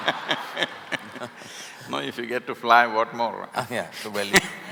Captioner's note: laughter; laughter